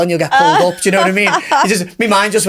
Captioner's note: laughing